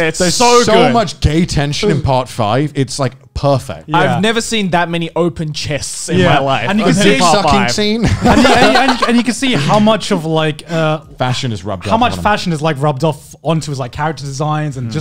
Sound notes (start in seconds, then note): 6.7 men laughing